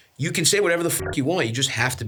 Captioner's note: beeps